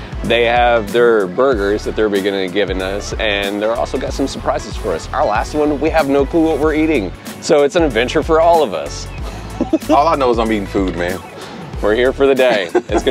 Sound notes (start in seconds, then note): 9.4 laughs